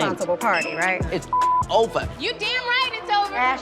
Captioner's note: beep